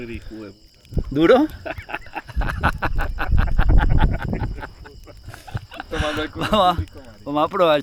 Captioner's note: laughs